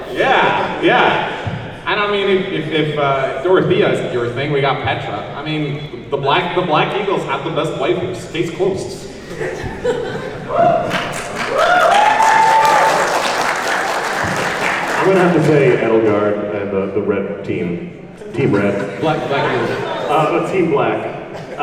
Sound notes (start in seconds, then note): 10.6 laughs, claps and woos